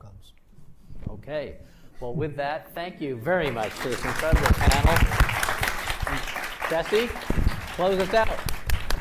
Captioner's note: applauds